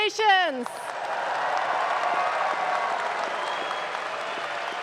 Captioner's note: audience claps